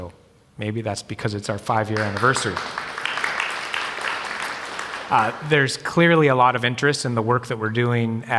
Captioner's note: applause